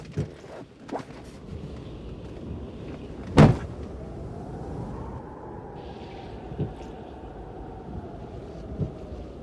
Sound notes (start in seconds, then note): 3.3 door slamming